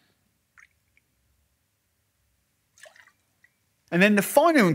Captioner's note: pouring liquid